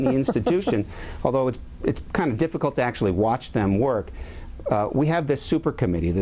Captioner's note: laughter